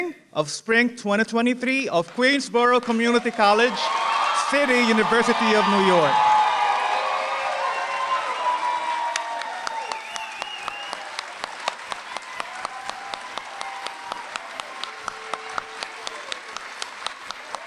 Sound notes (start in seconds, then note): 6.8 applause